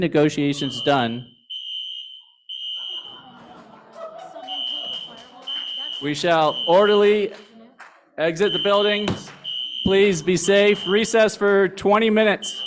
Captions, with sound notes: negotiations done-- [FIRE ALARM SOUNDS] [LAUGHTER] We shall orderly exit the building. Please be safe. Recess for 20 minutes.